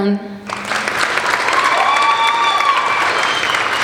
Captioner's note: applauding